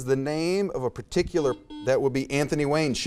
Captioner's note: buzzer beeps